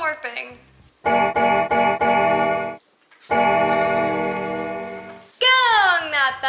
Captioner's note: bells Ringing